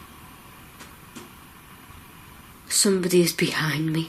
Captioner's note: tapping